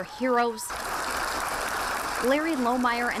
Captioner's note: applause